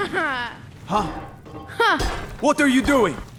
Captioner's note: klonk!